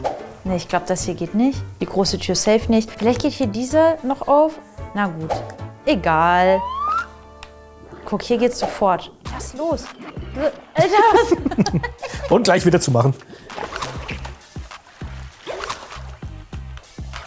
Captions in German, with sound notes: Ich glaube, das geht nicht. Die Tür safe nicht. Vielleicht geht hier diese noch auf. Na gut, egal. Guck, hier geht's sofort. Lass los. Alter. (Lachen) Und gleich wieder zumachen. (Beißgeräusche)